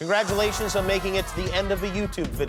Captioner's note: applause